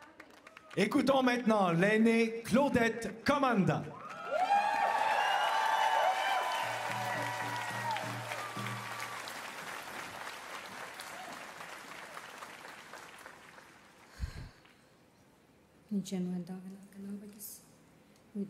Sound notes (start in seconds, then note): 5.1 speaking French; 8.5 cheers and Applause